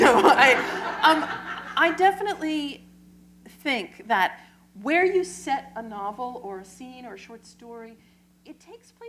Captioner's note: laughter